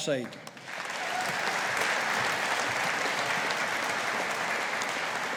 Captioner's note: audience applauding